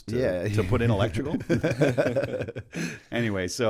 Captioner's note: laughter